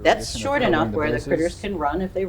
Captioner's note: background chatters